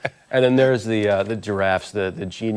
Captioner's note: laughter